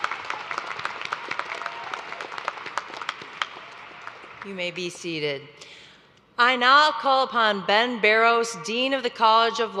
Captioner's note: applause